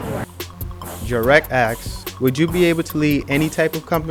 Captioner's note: voiceover